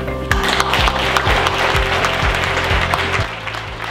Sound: class applauds loudly

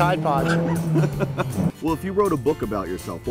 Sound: laughter

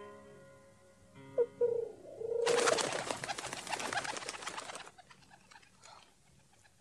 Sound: SFX: cooing before dove flies away

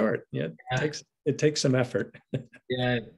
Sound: laughs

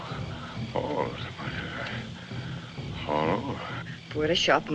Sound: murmuring

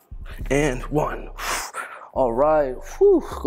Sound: exhales

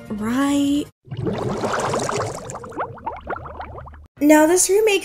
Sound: bubbles rising sound effect

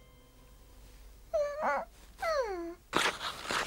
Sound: moans

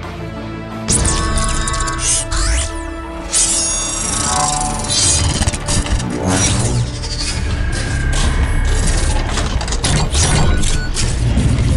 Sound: mechanical Sounds

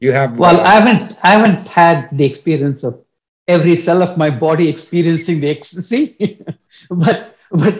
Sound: laughs

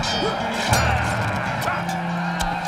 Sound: metal clanging

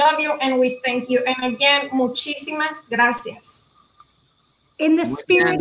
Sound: speaking in foreign language

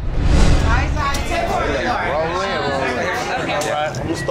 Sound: loud chatter

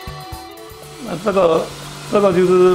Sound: speaking chinese

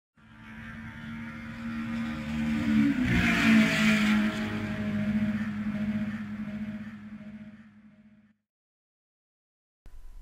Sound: car noise

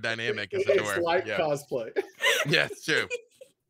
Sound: laughing

